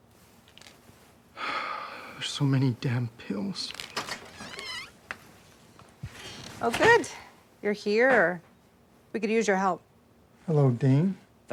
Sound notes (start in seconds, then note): 0.5 pills rattling; 1.4 Val sighing; 3.6 door creaking